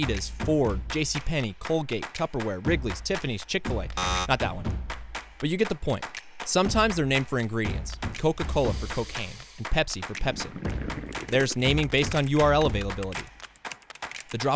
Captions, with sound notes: think McDonald's, Adidas, Ford, JC Penney, Colgate, Tupperware Wrigley's, Tiffany's, Chick fil a, [Buzzer] Not that one. But you get the point, sometimes they are named for ingredients, Coca-Cola for cocaine, Pepsi for Pepsin, there's naming based on URL availability, the